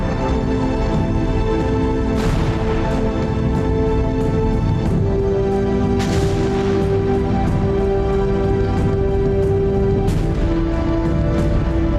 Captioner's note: marching, Canon fire, music